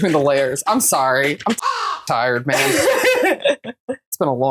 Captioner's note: caw